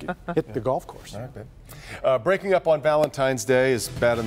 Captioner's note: laughter